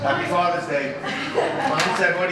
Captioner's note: laughs